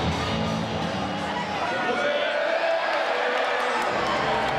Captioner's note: crowd chattering